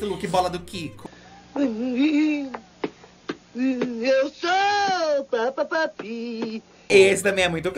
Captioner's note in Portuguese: cantarolando